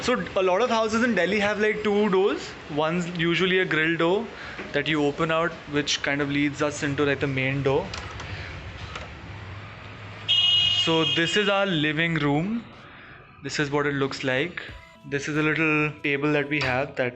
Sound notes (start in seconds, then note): 10.2 car honking